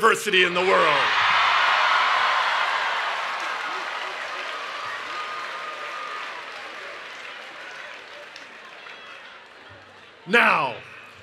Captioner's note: cheering and Applause